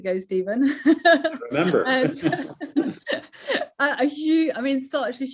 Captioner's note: laughing